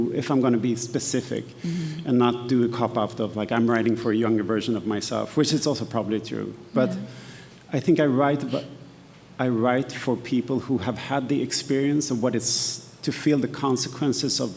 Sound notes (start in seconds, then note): none